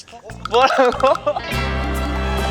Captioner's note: scared